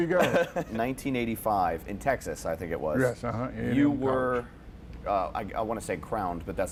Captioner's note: laughter